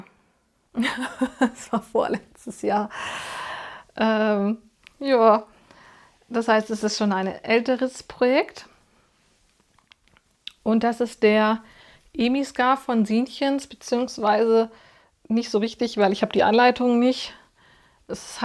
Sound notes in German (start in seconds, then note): 0.8 gelächter